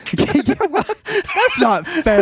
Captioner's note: laughing